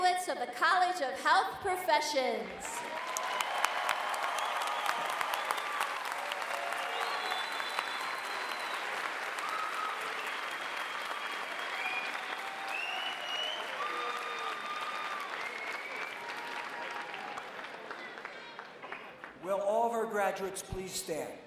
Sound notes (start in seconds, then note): 3.1 applause